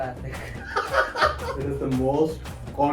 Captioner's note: laughs